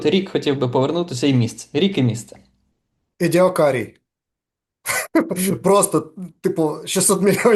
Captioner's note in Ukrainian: сміється